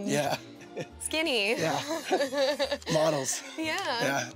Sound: laughs

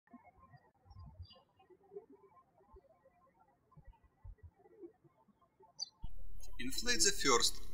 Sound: birds chirping

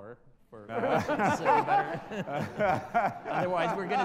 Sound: audience laughter

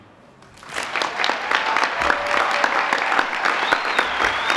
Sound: applause

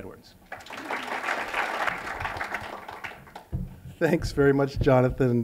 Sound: applause

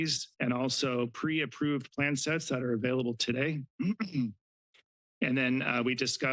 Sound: clears throat

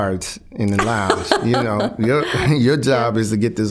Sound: laughing

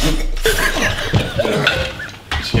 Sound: chuckling

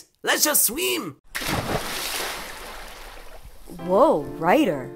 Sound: water splashes

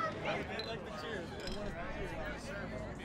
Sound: soft chatter

